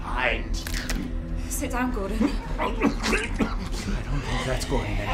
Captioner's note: Gordon gagging